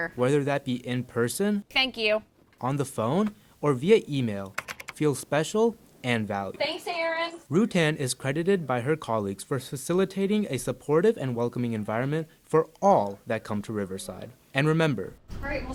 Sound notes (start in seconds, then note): 4.4 keyboarding tapping